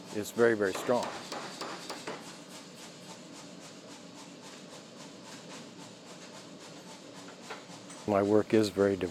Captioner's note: machinery whirs